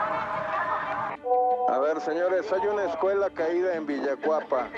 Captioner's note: seismic alarm